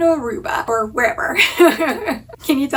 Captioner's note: laughing